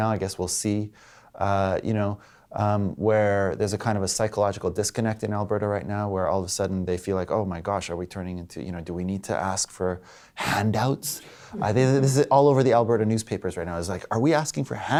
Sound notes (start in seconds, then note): 11.4 laughter